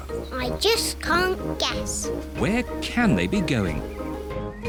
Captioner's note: none